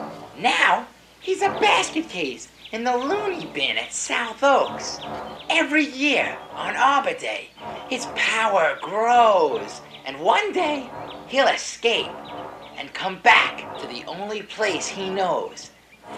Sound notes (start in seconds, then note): none